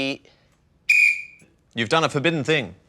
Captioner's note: blows whistle